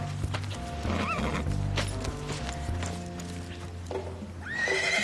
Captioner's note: horse neighing